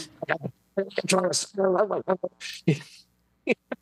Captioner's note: faux cursing